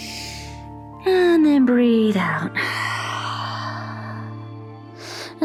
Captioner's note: inhales; exhales